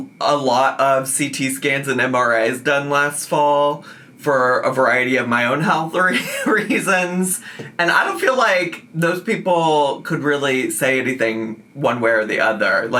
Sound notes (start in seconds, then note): 7.0 laughing